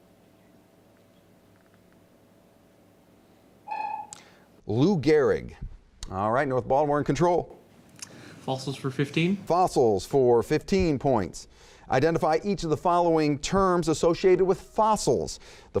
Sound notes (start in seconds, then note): 3.7 dinging